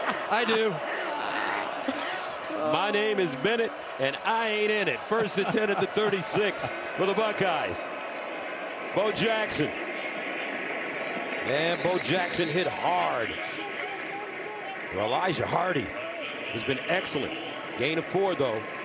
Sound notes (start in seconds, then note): 6.9 laughter